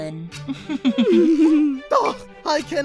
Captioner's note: candle and cabby chuckle